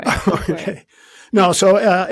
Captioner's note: laughs